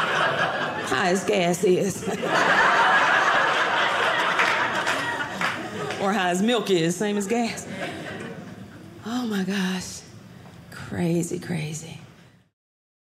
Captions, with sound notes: High as gas is. (audience laughing) Or high as milk is. Same as gas. Oh my gosh. Crazy crazy.